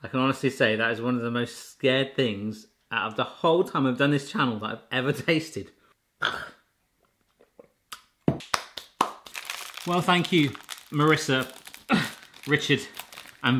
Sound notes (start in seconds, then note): 6.2 gulping